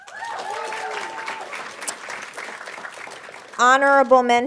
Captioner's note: audience applauding